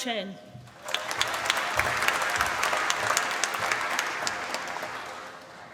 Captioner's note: applause